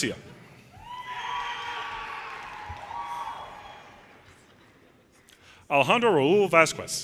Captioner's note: audience cheers and applause